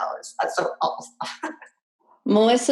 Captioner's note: chuckles